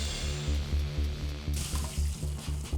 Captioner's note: sizzling